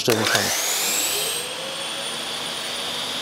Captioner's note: sound of sawing